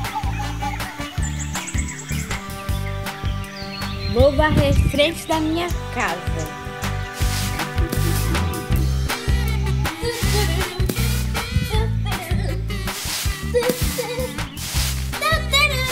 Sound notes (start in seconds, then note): 7.0 sound effect of broom on the floor; 9.8 humming